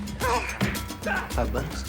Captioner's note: yelling; blows landing